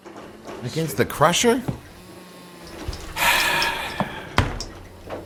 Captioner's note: sighs